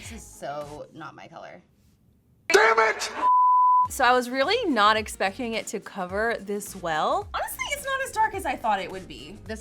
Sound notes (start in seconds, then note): 3.2 beep